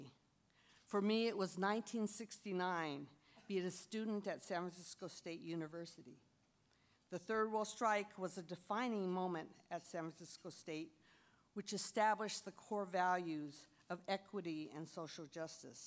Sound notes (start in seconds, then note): none